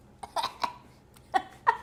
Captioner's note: laughs; gags